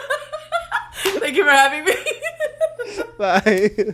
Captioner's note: laughs